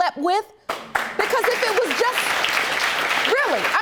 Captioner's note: audience applauding